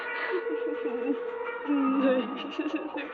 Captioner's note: sobbing